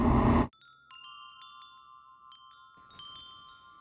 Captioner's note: chimes tinkle